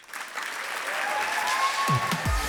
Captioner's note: clapping